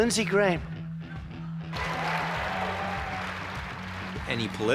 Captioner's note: cheers and applause